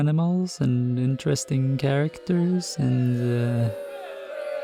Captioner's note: boos in the background